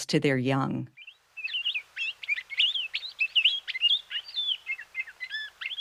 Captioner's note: palila calls